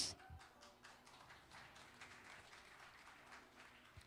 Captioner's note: applause